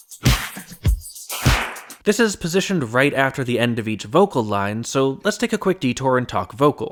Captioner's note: bang